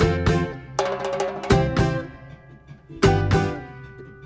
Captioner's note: clap